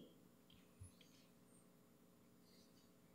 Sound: none

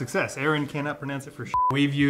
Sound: beep

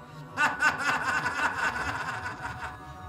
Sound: echoing laughter

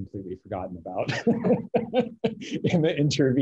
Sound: laughs

